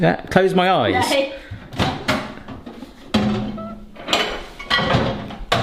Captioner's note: microwave clattering